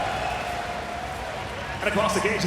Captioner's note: audience cheering